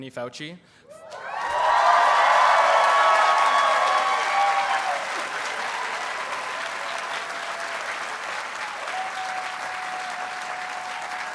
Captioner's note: audience cheers and applauds